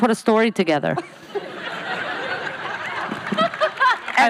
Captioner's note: laughing